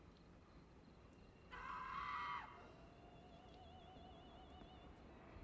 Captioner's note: screaming